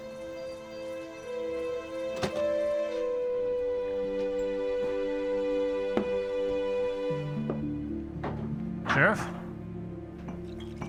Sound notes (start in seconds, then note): 2.2 footsteps